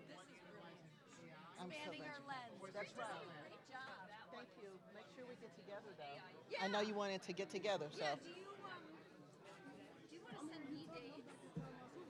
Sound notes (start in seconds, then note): none